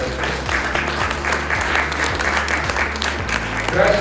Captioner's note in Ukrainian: оплески